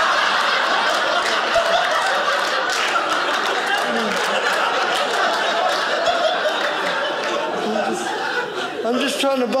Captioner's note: audience laughing